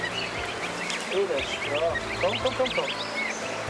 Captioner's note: birds chirping; speaking in foreign language